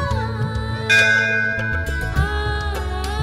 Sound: bell ringing

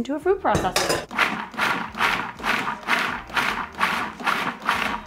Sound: food processor buzzing

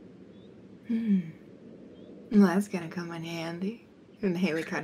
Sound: hums

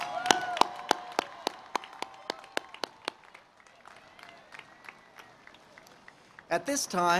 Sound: cheering and Applause

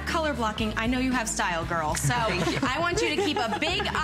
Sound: laughter

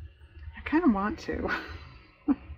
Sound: laughs

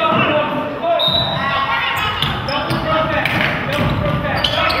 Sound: whistle blows

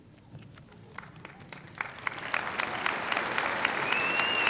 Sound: applause

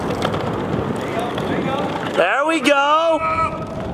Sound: wheels whirring

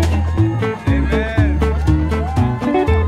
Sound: cheering

